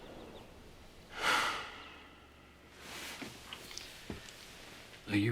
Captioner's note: Nick sighing